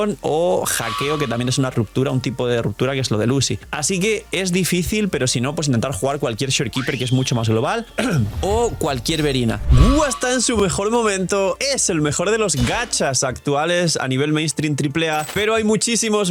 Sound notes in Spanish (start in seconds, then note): 8.0 carraspeo